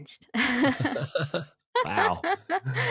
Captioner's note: both laughing